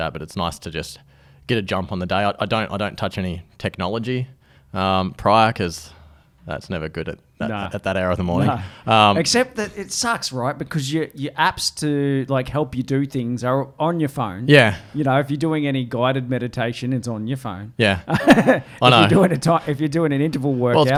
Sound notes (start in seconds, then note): 18.0 laughs